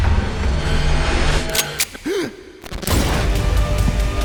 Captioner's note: gasping